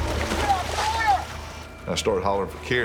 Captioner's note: shouting